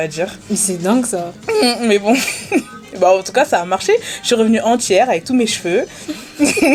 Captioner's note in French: rires